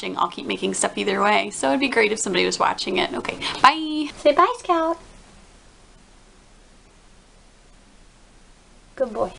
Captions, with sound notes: I'll keep making stuff either way so it'd be great if somebody was watching it. Ok byeeee. Say bye Scout. [silence] Good boy.